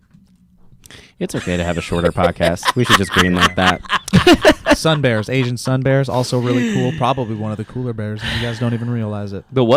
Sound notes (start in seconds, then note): 4.4 laughs